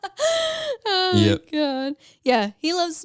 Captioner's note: laughs